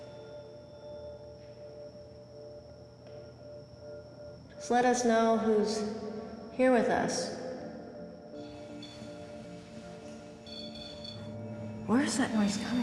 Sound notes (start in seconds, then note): 10.4 high-pitched noise; 11.3 buzzing noise